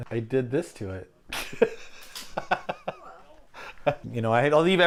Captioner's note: laughing